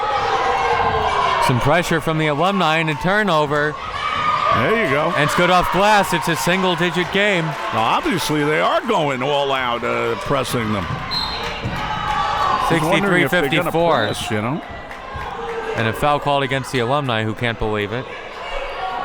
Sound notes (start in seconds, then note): 11.0 whistle